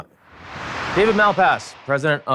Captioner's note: air whooshing